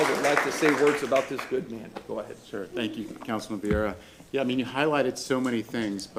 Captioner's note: applause